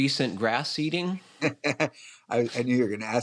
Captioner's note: chuckles